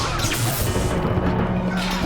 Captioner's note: yelling